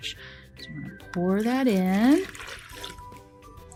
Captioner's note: water noise